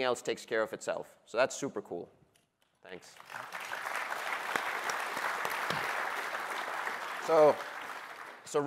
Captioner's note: applause